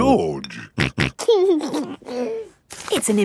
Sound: snorting and giggling

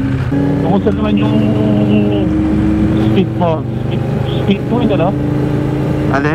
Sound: distorted audio

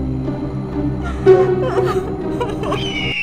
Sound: Jeya crying

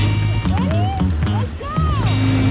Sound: engine revs

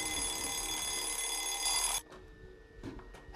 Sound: ringing stops

